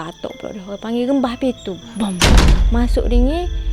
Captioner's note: bang!